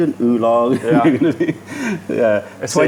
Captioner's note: laughter